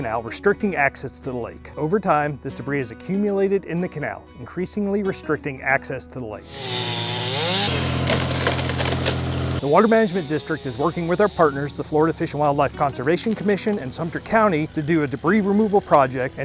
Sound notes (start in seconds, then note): 6.7 chainsaw buzzing; 8.1 tree crashing